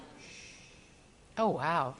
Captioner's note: audience member shushes